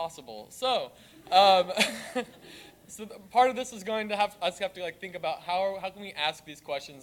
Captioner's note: laugh